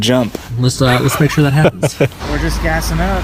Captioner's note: laughs